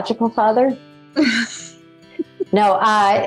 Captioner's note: interviewer giggles